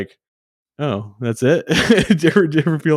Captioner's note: laughs